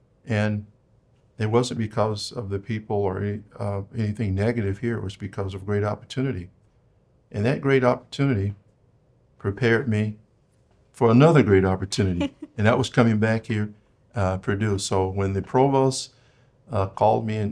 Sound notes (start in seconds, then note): 12.0 laughs